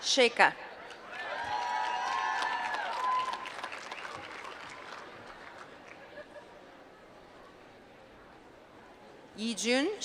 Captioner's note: applause